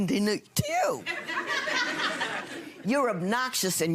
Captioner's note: audience laughing